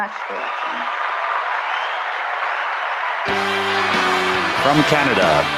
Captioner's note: applause